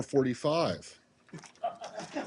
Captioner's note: laughter